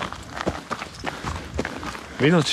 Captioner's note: footsteps and heavy breathing